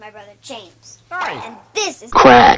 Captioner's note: in a weird voice